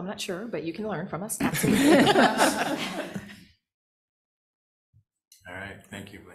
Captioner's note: chuckling